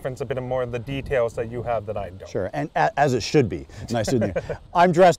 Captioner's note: laughing